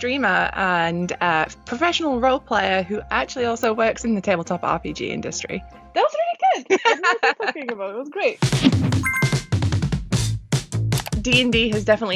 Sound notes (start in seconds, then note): 7.7 laughs; 8.8 drum beat